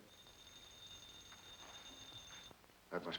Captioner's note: phone ringing